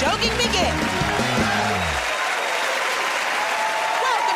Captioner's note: cheers and applause